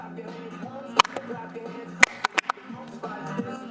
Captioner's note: loud clapping